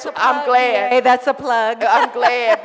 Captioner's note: laughs